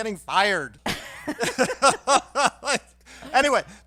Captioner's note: laughing